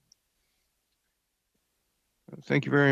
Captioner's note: speaking French